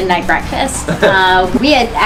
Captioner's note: laughs